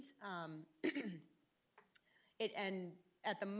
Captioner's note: clears throat